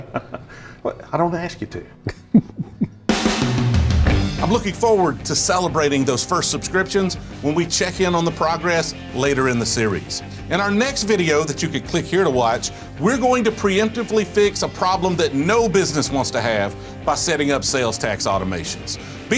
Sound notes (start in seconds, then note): 2.0 laughing; 2.0 laughs